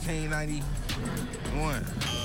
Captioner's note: buzzer